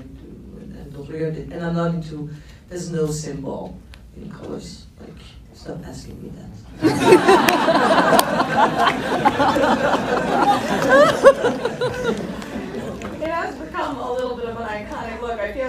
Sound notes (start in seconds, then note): 6.8 laughs